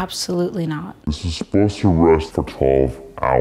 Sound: speaking in slow motion

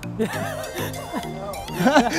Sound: laughing

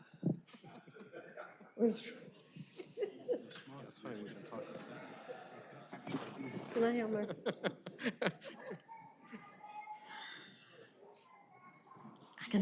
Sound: laughter

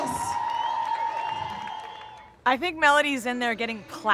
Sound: cheers

